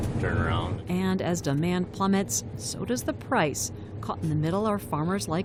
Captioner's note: voice-over